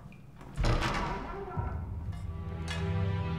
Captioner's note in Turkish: Kapı Gıcırtısı Sesi